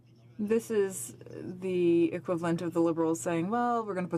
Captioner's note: speaking in french